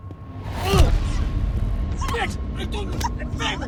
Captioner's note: foot thudding; man grunting